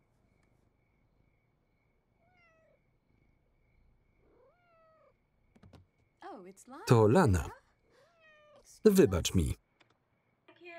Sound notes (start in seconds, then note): 2.2 cat meows